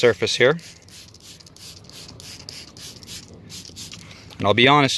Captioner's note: bottle sprays